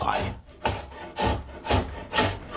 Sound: planing noises

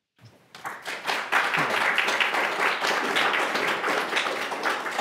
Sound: audience applauds

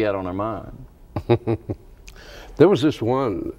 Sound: chuckles

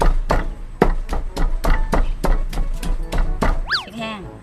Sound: pounding sound

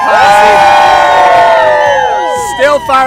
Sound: screams

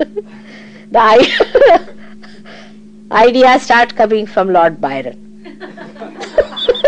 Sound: laughter

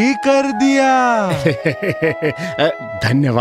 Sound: chuckles

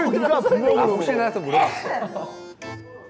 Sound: hehe

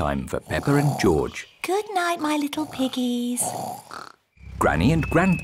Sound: both snoring

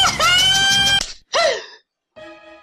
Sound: gasp

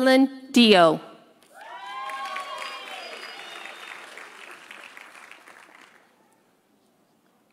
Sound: audience applauding; audience cheering

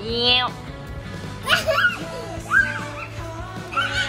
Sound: laughs

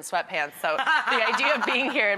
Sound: laughs

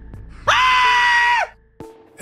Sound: scream

